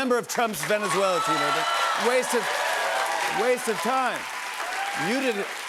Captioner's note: cheers and applause